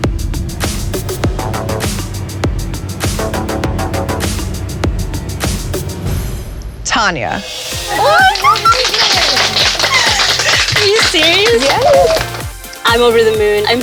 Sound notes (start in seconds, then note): 0.0 techno music; 7.9 clapping